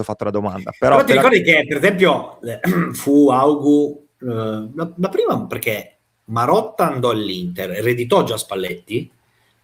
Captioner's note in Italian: schiarire la voce